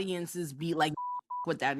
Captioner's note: beep